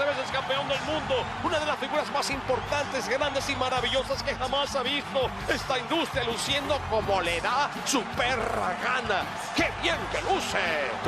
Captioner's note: applause